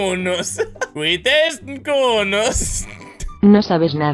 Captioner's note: laughs